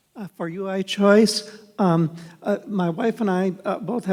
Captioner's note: voiceover